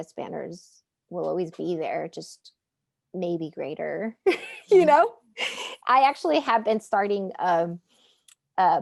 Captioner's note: laughing